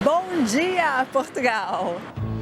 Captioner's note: in Portuguese